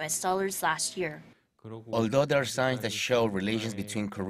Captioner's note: Korean